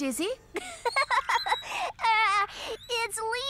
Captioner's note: giggling